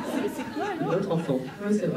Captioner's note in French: rires